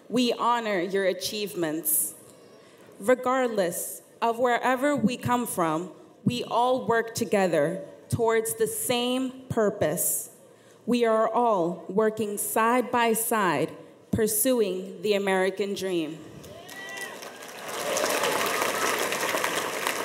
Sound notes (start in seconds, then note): 16.5 audience applauds